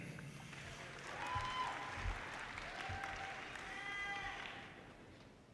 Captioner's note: audience cheers and applause